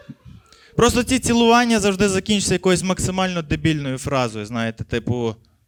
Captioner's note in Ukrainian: звуки поцілунків